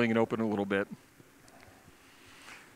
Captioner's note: pause